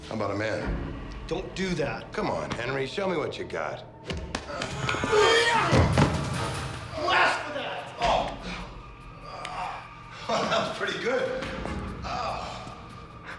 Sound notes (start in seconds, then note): 4.4 yells; 8.6 groans